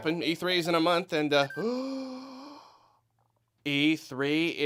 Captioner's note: gasp